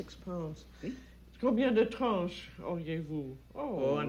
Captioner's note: both conversing in French